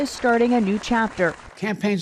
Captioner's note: applause